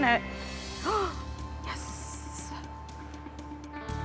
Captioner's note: gasps